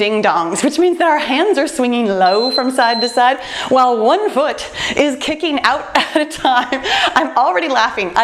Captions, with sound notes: we're doing Ding Dongs, which means our hands are swinging low (timer beeps) from side to side, while one foot is kicking out at a time. I'm already laughing.